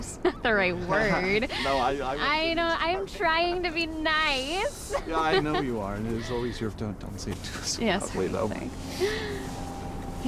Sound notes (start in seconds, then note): 0.9 Billy laughs; 4.8 Suzy laughs